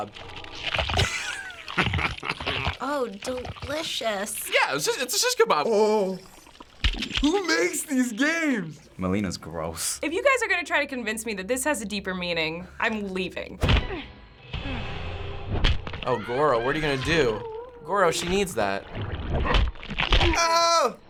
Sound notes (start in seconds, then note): 0.0 in game: crunching; 0.9 chuckling; 13.4 grunt; 18.8 Goro grunts